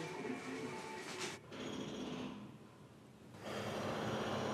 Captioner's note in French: Bruit de travaux dehors